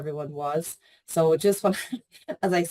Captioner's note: laughs